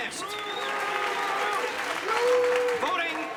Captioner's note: audience cheers and boos